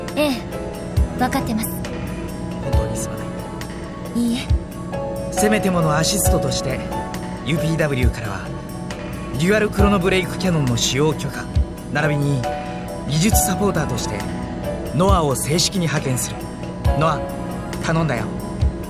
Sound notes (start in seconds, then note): none